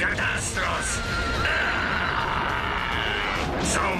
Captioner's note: whinnying